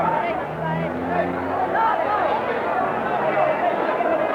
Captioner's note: bullicio del estadio